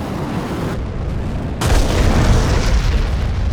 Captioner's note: explosion